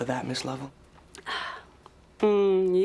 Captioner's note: Becky exhales loudly